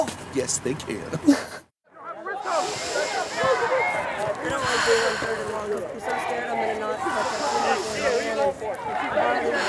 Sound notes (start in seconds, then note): 2.0 people chattering in background; 2.4 slow, deep breaths